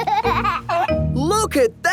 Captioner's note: giggling